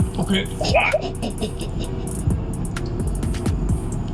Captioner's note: laughing